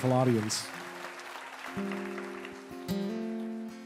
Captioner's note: applause